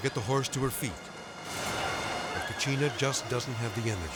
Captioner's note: suspenseful music; Cachina neighing